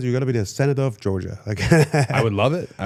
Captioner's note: laughs